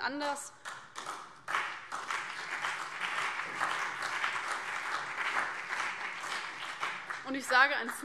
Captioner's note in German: Beifall CDU und BÜNDNIS 90/DIE GRÜNEN